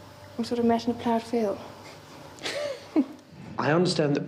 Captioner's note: laughs